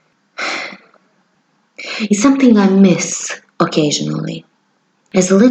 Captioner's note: breath